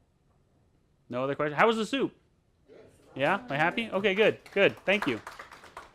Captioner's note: applause